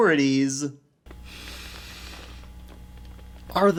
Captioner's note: takes a deep breath